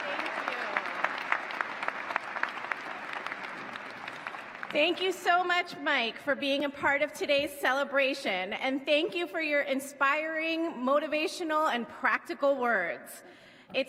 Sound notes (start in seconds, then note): 0.0 applause